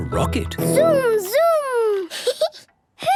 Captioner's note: rattling; giggling